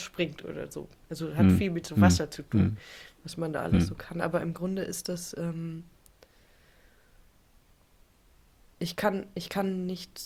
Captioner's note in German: räuspern